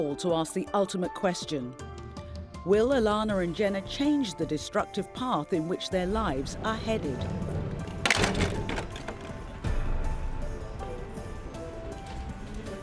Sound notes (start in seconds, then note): 8.0 door closes; 10.0 gentle music